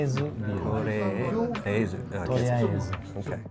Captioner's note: speaks foreign language